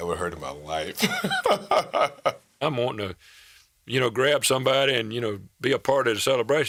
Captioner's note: laughs